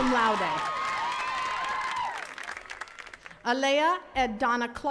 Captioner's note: attendees cheering and clapping